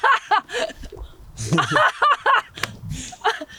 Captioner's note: hysterical laughter